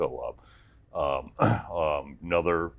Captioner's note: clears throat